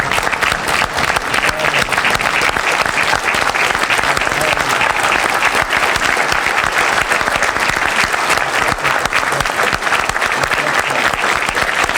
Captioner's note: applause